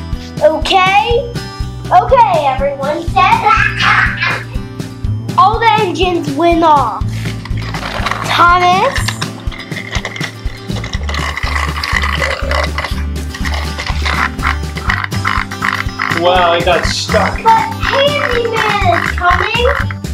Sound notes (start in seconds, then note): 14.2 wheels grinding